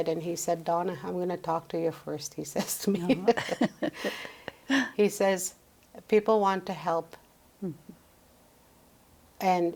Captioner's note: laughs